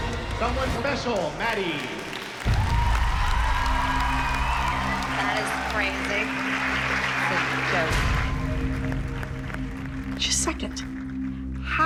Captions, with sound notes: Someone Special, Maddie. [cheering and applause] That is crazy. It's a joke. She's second.